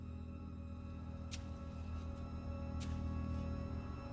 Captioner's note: digging